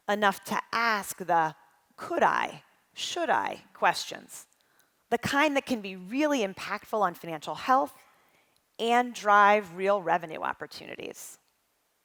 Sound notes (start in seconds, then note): none